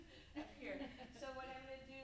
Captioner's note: group laughs